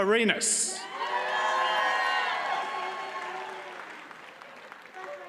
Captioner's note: audience cheers and applauds